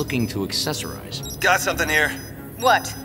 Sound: over comms

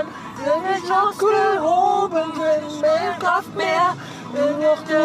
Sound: humming

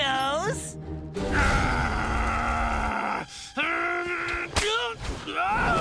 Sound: growling

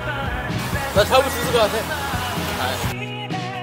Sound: confident

